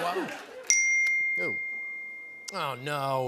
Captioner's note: ding